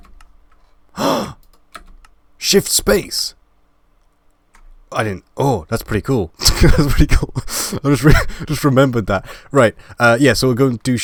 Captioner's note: laughing